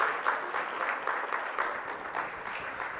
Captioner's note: audience applauding